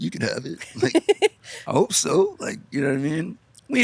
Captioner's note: laughing